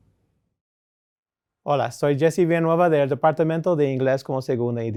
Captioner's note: speaking in Spanish